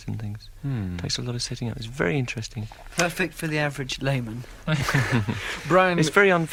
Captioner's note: laughter